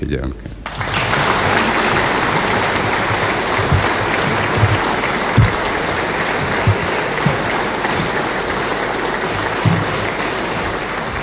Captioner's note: prolonged applause